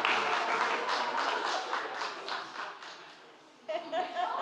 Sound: applause

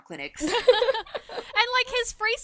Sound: hosts laugh

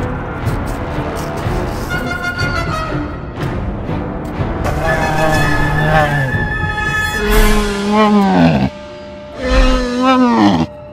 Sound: intense music; Bumpy growls

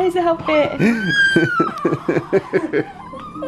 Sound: crying; laughter

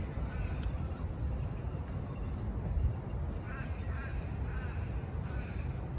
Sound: there is a very light hum of traffic in the background

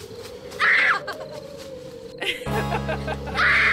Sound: evil Laughter; scream

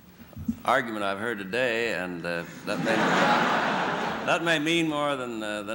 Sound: laughter

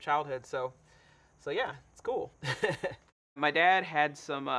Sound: laughs

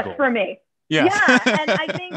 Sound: laughter

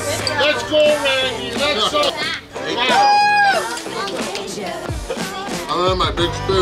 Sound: cheering

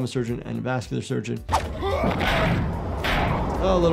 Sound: head thuds

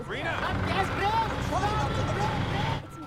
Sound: shouting

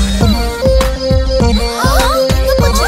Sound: gasps

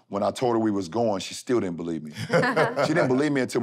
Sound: laughter

